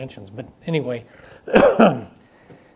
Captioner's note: coughs